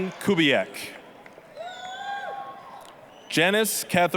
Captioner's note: applause, cheering